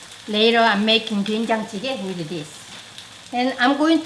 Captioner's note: speaking in Korean